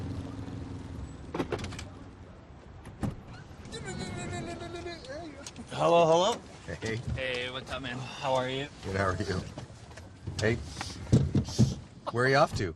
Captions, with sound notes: [Motor engine sound effect] [Car door opening] Hello, hello. Hey. Hey. What's up, man? How are you? Good, how are you?